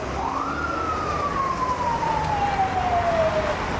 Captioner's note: siren blaring